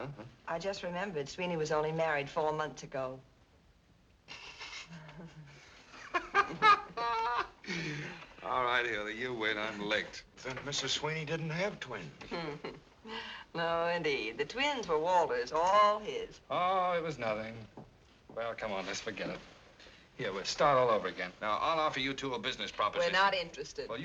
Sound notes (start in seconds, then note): 4.0 Walter snickers, laughs; 12.2 Hildy chuckles